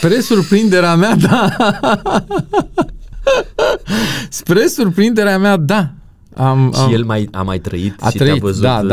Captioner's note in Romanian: Râsete